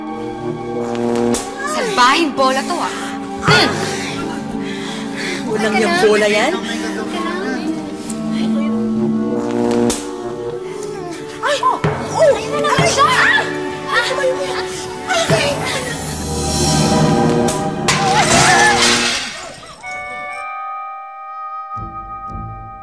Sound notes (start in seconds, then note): 0.2 buzzing; 3.4 Claire grunts; 9.0 buzzing; 16.2 buzzing; 17.9 all gasp; 19.7 tense music playing